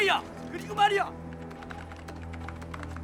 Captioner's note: keyboard Keys Tapping